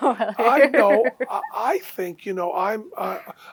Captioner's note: laughter